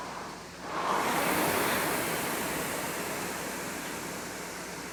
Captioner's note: rowing machine whirring